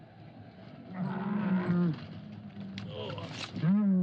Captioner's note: camel groans